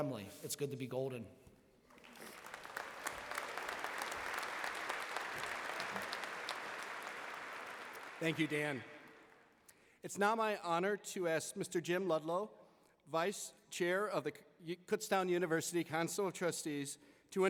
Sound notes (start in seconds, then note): 1.9 applause